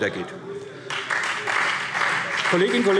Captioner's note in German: Beifall : Ich wette einen Cent!